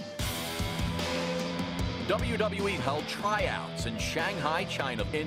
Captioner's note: speaking foreign language